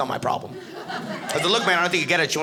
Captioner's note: audience laughing